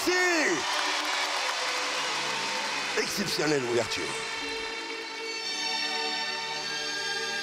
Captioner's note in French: applaudissements